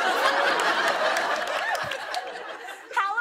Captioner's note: laughter